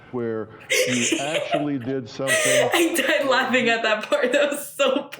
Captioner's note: laughs